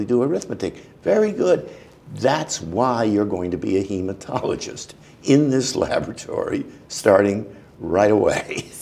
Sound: laughter

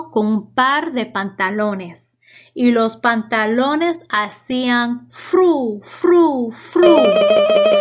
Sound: sonido tambaleant

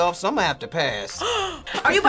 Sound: React gasps

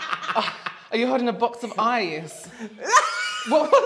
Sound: laughing

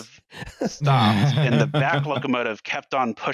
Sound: laughing; laughs

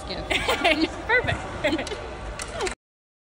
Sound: laughs

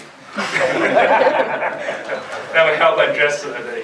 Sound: audience laughter

